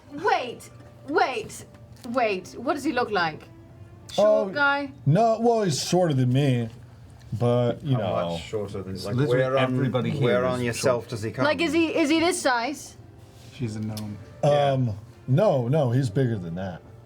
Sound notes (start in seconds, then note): none